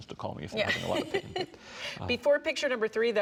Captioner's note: giggling